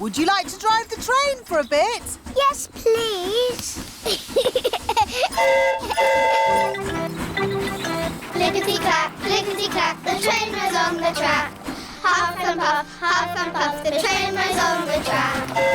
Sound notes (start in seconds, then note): 4.0 giggles; 5.3 train horn toots